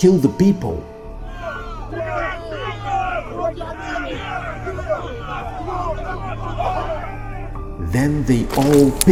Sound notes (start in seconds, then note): 1.1 people yelling sound